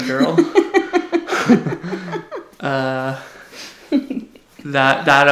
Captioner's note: laughs; giggles